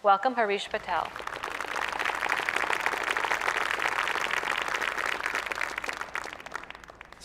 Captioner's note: applause